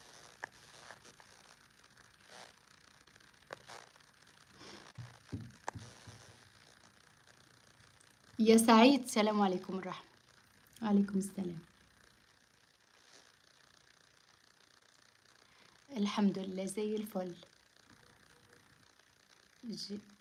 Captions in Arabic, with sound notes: [أصوات شخير] يا سعيد السلام عليكم الرحمه وعليكم السلام الحمد لله زي الفل